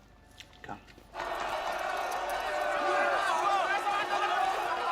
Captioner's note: crowd shouting